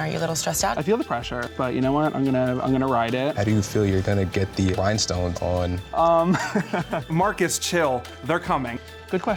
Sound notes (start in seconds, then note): 6.2 laughs